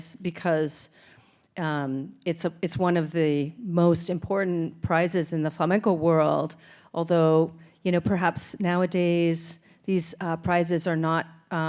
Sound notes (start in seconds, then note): none